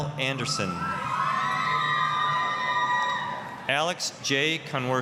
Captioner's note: applause, cheering